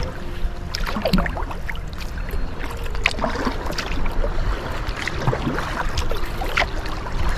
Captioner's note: sound of paddle strokes